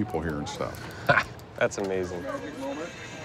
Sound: laughs

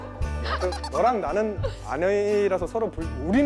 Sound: giggles

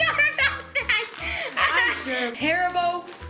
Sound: laughs

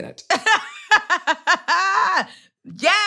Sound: laughs

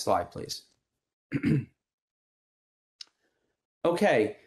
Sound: clearing throat

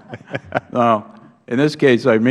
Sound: laughter

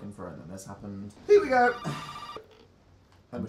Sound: sighs

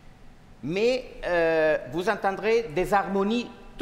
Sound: speaking french

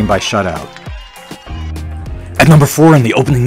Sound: mid-tempo instrumental music; crowd drones

